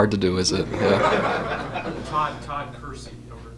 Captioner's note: laughter